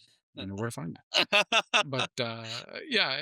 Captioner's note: laughing